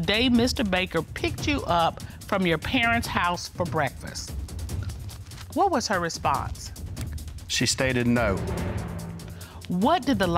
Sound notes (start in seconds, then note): none